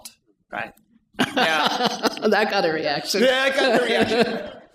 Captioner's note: chuckles